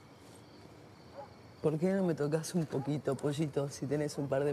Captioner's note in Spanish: Turca